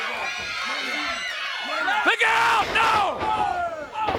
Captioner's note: crowd cheering